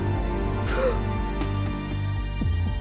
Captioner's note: June exhales